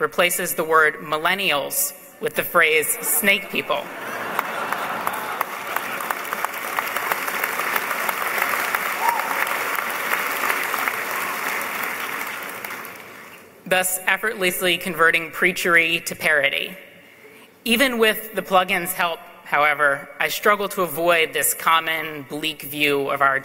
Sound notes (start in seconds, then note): 3.8 laughs; 6.4 applause